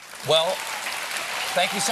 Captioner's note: applause